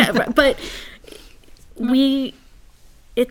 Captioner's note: laugh